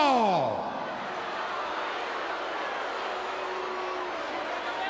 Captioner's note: crowd booing